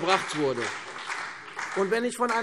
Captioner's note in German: Beifall CDU und vereinzelt BÜNDNIS 90/DIE GRÜNEN